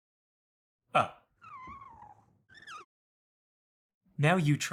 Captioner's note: marker squeaking